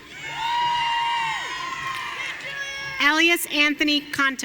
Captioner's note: audience cheering